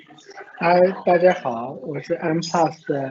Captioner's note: Mandarin